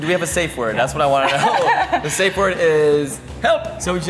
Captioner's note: laughs